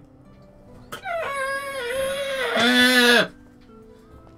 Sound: external screeching

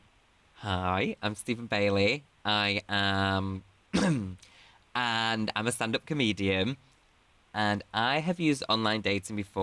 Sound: coughs

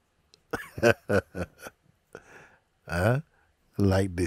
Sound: Mooji laughs

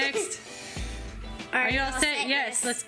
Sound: laughs

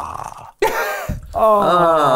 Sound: laughs

